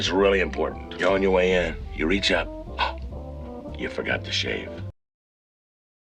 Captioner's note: gasp